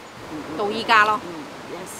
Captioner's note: Cantonese